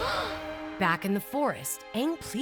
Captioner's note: gasping